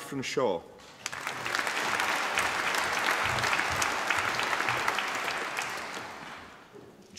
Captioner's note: applause